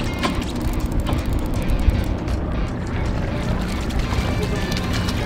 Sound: fishing rod reels; water splashes

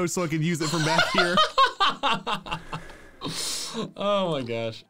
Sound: laughing

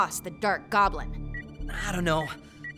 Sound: radar beeping

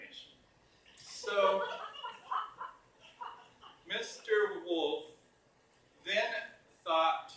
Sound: mixed laughter

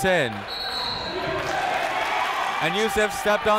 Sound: whistle; clapping

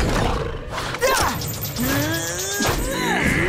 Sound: grunting

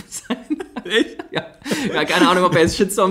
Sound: laughs

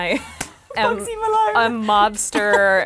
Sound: laughs

